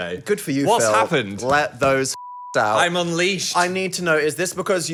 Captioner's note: beep